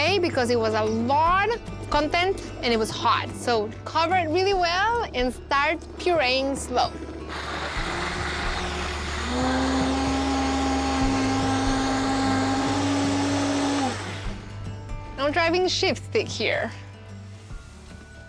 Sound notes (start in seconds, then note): 7.2 blender whirring; 9.0 whirring intensifies